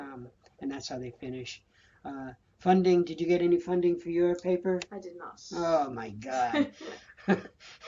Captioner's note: laughter